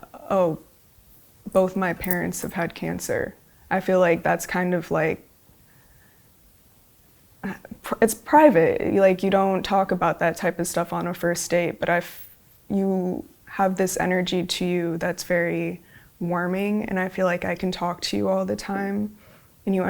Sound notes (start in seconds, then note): none